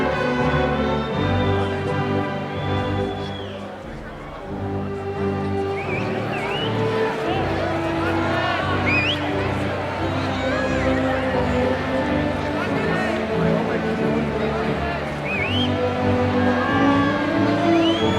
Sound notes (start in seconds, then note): 6.4 ceremonial orchestral music; 6.4 cheering and crowd murmurs